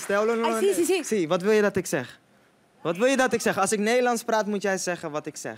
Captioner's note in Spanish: Habla en holandés